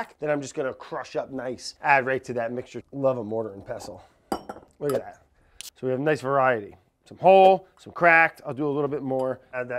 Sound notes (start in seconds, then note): 4.7 metal clanking